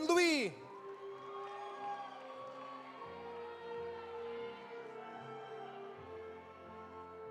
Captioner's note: audience cheering; audience applauding